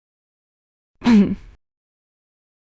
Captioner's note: ahem